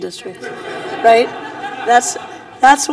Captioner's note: laughter